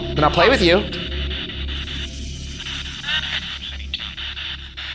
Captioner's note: spirit Box crackling